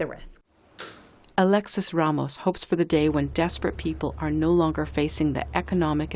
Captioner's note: voice-over